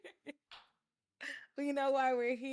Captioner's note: laughing